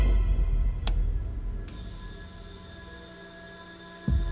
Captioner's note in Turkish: Elektroşok cihazı çalışıyor